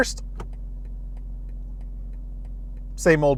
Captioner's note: quiet clicking